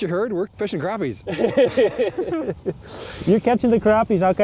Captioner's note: laughing